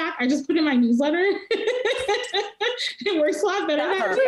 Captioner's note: laughing